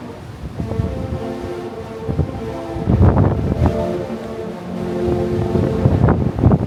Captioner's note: horns blaring; wind whipping